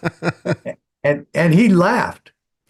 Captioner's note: laughing